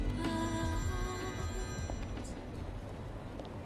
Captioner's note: phone ringing